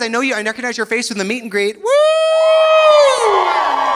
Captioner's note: cheers; audience cheering